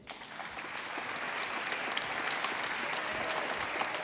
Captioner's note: applause